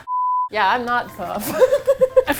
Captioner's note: laughs